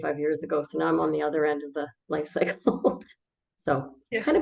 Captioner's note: laughs